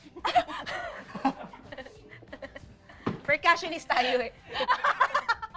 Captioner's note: laughing